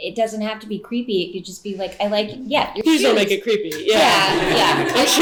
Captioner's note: laughing